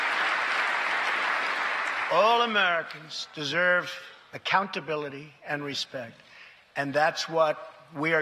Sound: applause

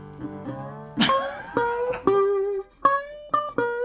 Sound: laughing

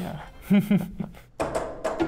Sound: laughing; drums playing

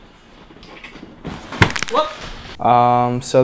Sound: crack

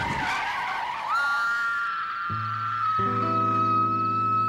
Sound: screaming intensely

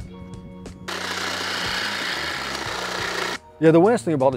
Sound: machine whirring

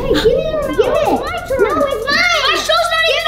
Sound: children arguing

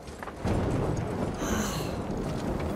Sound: sigh

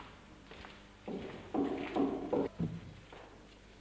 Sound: knocking

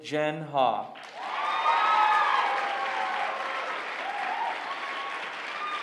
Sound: applause

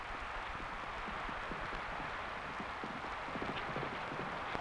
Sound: horse hooves pattering

